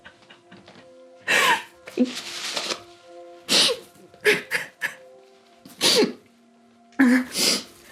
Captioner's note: sobs